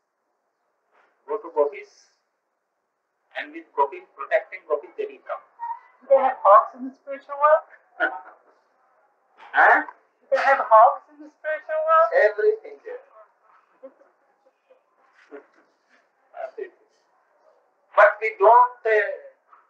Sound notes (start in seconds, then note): 8.0 laughs; 13.4 laughter